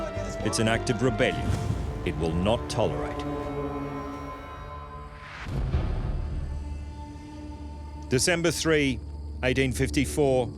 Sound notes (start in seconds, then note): 5.3 crickets chirping